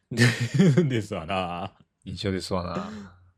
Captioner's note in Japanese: 笑い